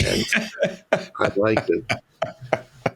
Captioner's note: laughing